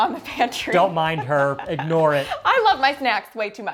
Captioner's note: laughs